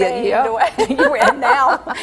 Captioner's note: laughing